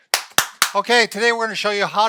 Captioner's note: clapping